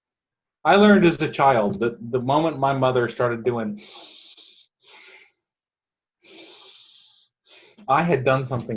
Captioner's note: breaths